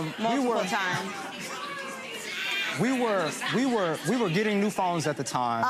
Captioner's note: audience chatter